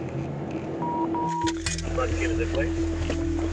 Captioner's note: radio beeping; radio chatter